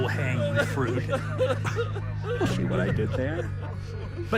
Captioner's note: chuckles